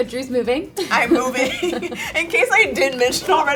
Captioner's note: laughs